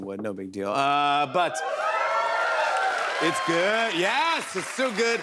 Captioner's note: cheers and applause